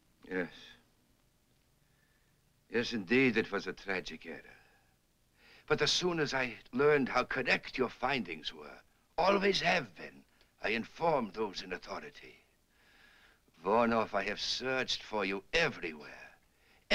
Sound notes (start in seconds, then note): none